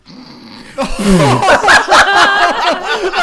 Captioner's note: laughing